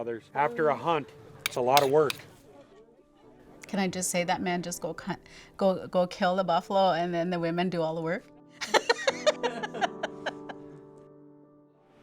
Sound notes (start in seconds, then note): 8.6 laughter